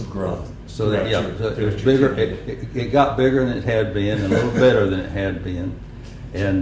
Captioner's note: laughter